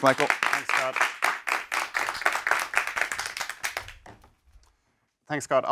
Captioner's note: applause